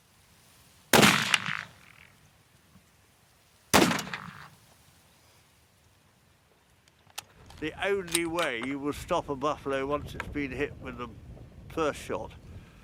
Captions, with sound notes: (rifle blasts) (rifle blasts) The only way you will stop a buffalo once it's been hit with the first shot,